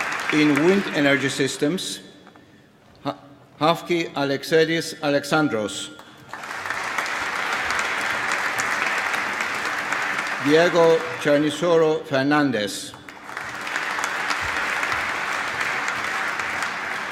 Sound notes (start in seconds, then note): 0.0 applause; 5.9 applause